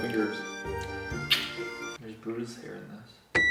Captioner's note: kisses